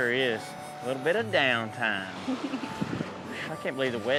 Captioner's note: giggles